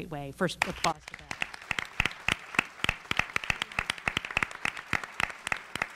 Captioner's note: audience applauding